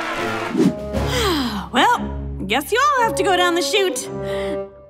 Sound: sighs

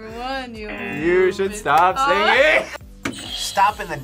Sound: buzzer; laughs; buzzer rings

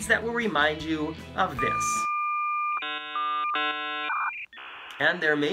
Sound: sound of dial-up modem

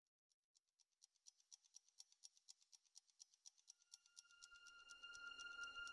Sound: ticking Clock

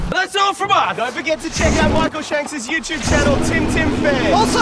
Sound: loud apocalyptic drone

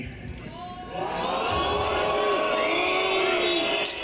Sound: crowd booing

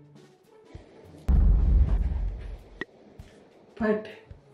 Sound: low rumble sfx

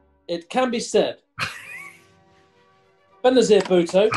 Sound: sniggering

